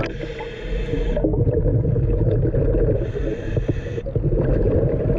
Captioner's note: gurgling water